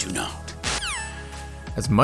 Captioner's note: phone dissconnects